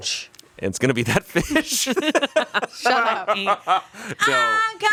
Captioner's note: both laughing